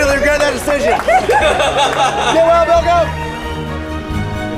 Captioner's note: applauding; laughing; dramatic music